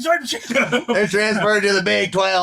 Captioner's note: laughing